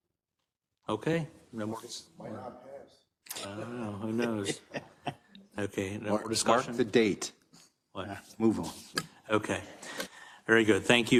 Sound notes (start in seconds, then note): 4.0 laugh